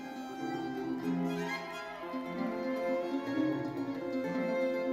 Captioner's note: crowd cheering